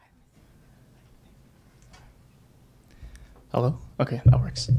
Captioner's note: people chattering